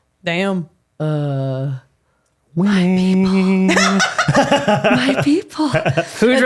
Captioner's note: laughing